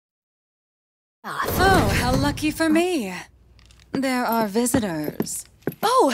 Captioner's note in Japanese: 戸を開ける音